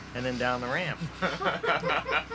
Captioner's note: laughter